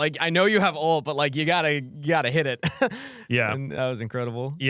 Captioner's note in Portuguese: risos